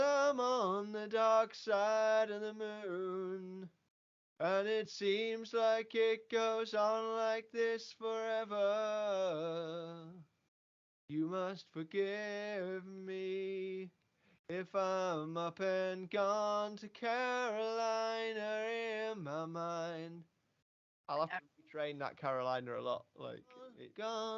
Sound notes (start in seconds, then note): 10.3 quiet breath; 14.1 noisy breath